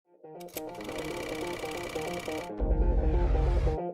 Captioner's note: film reel noise